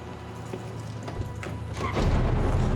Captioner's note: car door opens